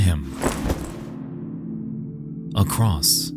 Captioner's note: cross rustles